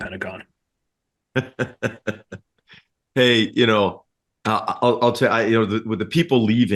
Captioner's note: laugh